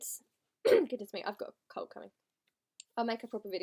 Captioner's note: clears throat